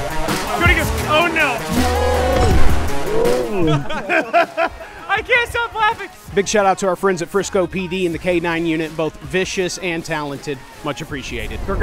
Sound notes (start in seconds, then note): 3.6 laughter